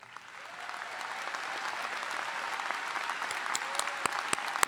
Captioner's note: audience applauding